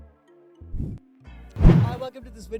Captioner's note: poof; whoosh